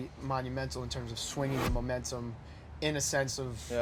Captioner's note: air whooshes